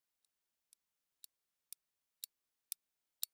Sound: clock ticking

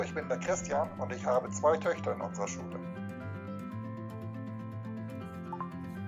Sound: speaking German

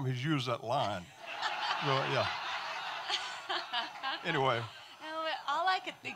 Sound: audience laughing

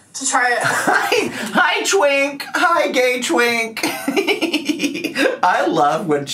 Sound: laughs

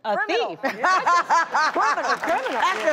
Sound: laughter and applause

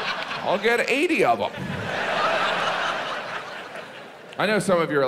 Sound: audience laughs

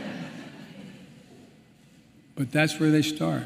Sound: laughter

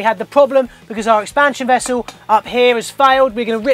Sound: knocks on pipe

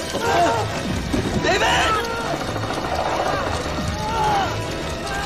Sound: centipede growls

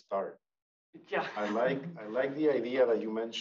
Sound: laughs

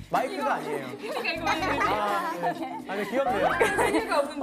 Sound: cracking up

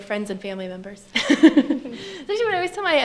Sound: panelists laugh

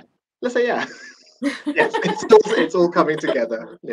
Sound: laughter

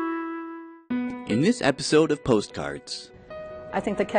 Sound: soft music; voiceover

